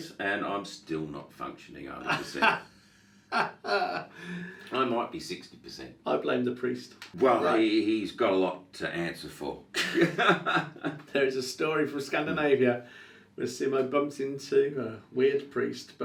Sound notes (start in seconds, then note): 3.3 laughs; 9.8 laughs